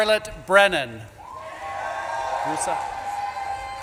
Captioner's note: audience claps and cheers